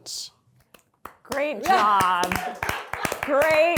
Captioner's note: crew clapping